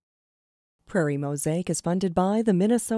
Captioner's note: voiceover